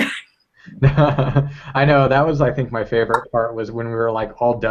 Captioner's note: laugh